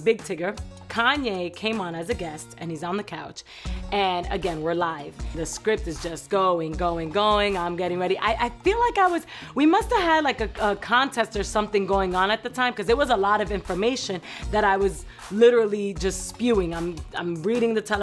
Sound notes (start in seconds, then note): none